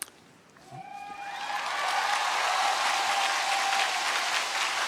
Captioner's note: applause